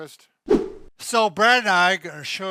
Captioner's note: air whooshing